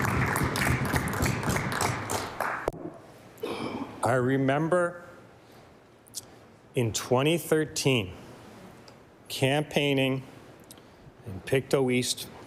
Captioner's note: applause